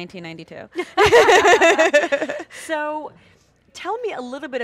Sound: laughs

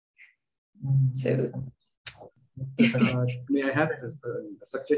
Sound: laughing

